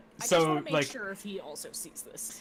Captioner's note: none